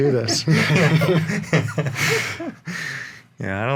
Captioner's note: laughing